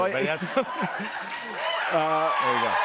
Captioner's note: cheers and applause